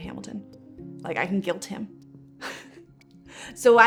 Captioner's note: chuckles